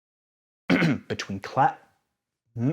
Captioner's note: clears throat